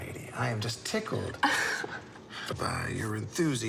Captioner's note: Molly laughs